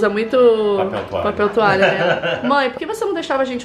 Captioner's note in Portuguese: risos